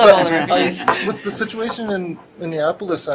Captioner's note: laughter